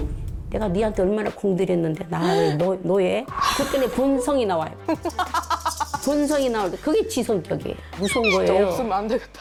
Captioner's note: chilling sound effect